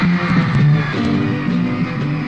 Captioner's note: screams